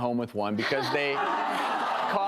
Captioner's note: laughing